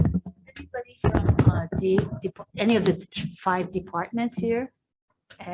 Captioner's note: distorted sound